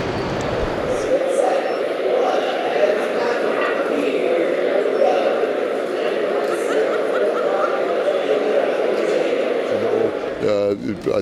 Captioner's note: the sound of convention loud speakers